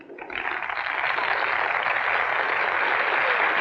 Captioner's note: applauding